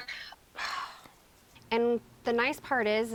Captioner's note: Lanae sighs